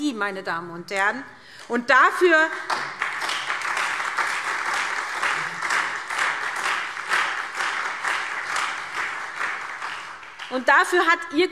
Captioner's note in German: Beifall SPD und Freie Demokraten